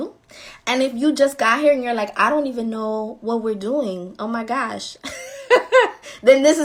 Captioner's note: laughing